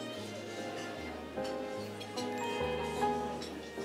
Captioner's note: dishes and utensils clinking